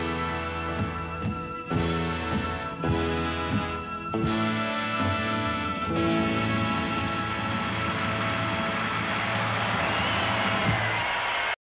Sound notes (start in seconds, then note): 7.4 audience applauds